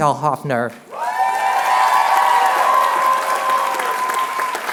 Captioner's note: applause